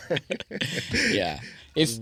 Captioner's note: laughing